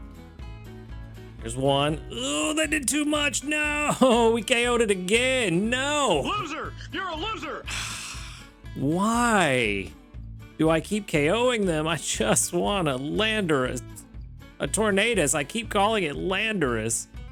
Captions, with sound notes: There's one. Oh, that did too much. No, we KO'd it again. No. Loser, you're a loser. (sighs) Why? Do I keep KOing them? I just wanna landerus. A tornadus, I keep calling it landerus.